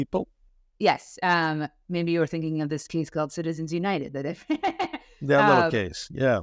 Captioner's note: laughs